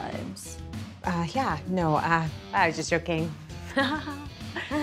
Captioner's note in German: lacht künstlich